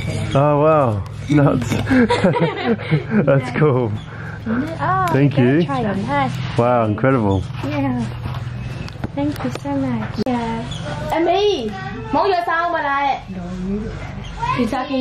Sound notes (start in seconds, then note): 3.3 laughs